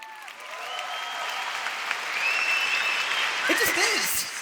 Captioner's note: audience applause and cheers